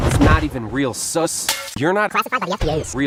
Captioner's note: crash